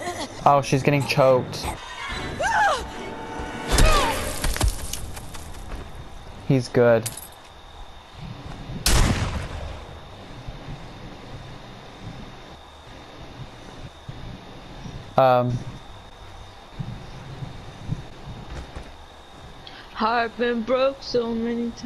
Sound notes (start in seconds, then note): 8.9 bang